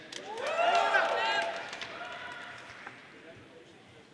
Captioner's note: audience cheering